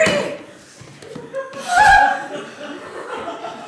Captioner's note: Doreen gasps in horror